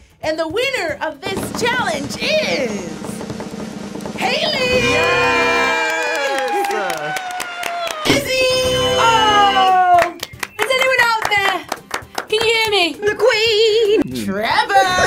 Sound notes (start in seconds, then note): 4.9 clapping; 9.5 clapping